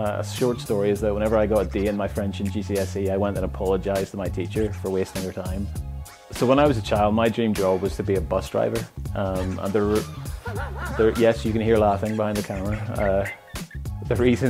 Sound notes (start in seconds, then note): 9.2 director laughs